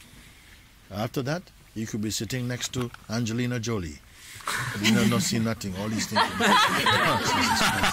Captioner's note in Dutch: gelach